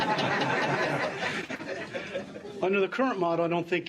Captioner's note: laughter